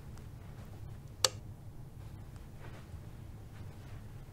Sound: lightswitch

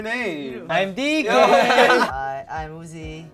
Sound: laughs

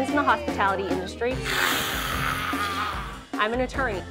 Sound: growling

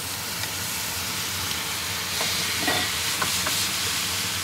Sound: meat sizzling

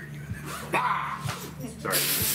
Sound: loud shout

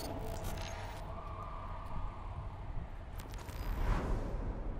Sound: police sirens

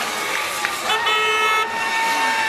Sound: car horn

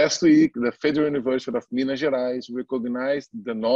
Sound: foreign language

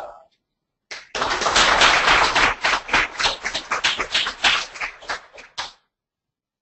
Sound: applause

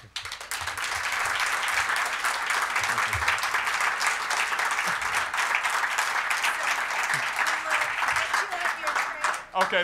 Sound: applause

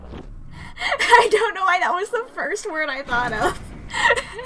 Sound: through laughter; laughs

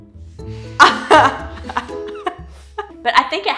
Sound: laughing

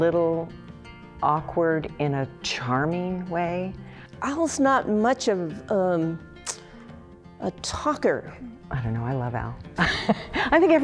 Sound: laughs

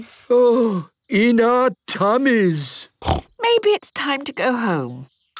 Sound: none

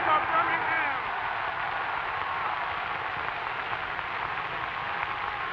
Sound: cheering

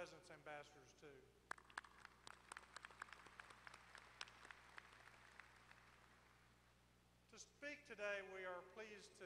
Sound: applause

